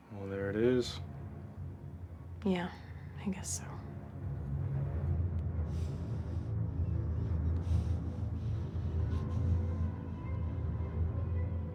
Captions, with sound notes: - Well, there it is. - Yeah, I guess so. (Joe breathing heavily) (eerie orchestral music)